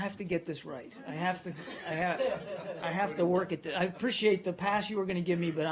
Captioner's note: laughter